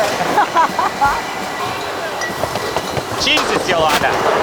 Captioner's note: bottles clanking; laughing; machines blaring